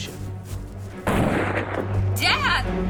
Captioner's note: gunfire pops